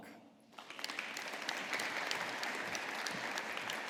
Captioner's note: audience applauding